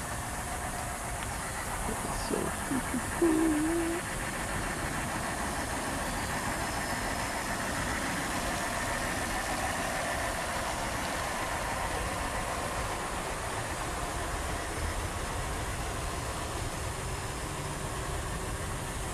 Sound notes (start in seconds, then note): 1.3 birds chirping; 3.4 water running